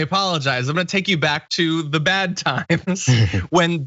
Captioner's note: laugh